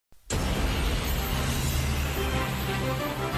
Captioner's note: plane engine roaring